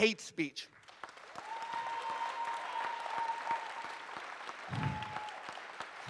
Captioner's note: audience cheers and applauds